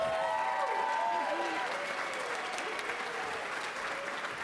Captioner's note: applause